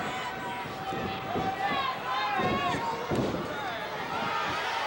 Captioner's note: audience chattering